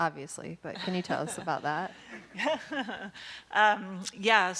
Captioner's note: laughing